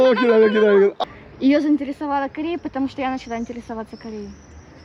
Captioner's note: speaking in Ukrainian now